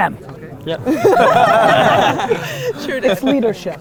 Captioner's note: group laughter